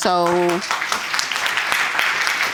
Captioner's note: audience applauding